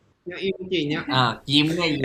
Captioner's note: in Thai